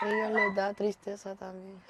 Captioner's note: small dog barks